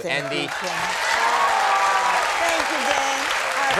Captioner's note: audience cheering